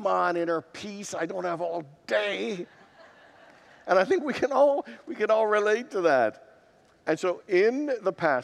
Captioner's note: congregants laugh